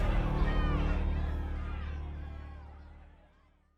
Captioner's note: people shouting